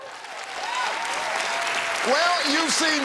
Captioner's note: cheers and applause